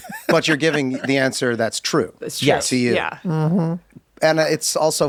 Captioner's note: laughs